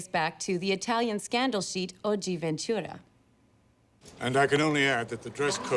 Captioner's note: italian